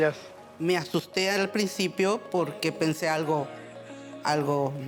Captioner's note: speaking Spanish